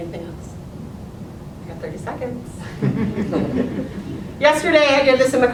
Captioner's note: audience chuckles